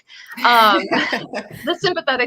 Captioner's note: laughter